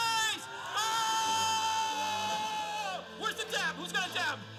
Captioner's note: yelling